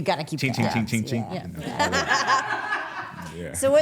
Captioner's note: laughs